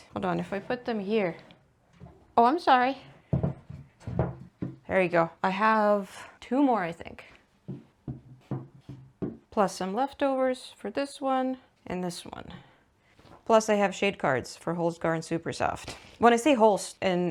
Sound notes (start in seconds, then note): 3.7 cones continue stamping the table; 7.6 more cones stamping the table